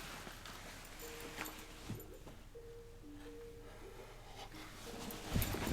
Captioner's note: computer ringing